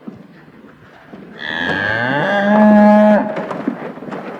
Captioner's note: cow moos